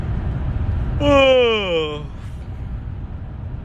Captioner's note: yAwN